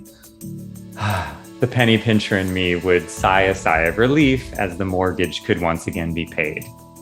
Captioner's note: sighing